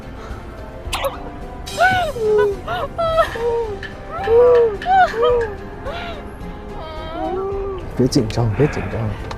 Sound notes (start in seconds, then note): 1.8 hearing two parts of wailing